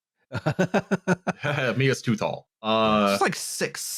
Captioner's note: laughs